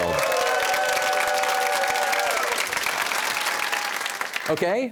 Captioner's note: cheers and applause